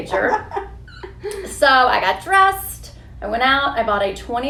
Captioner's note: laughs